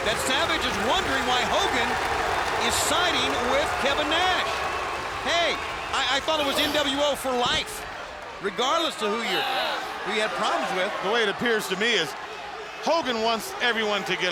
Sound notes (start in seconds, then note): 4.3 crowd cheering